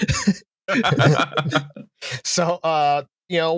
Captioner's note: laughter; laughs